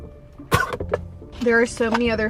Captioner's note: participant 2 coughing